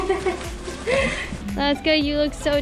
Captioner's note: laughter